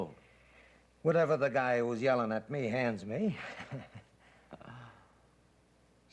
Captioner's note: Mike laughs